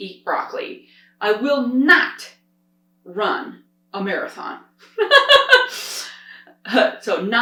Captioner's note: laughs